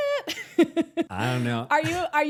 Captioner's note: laughs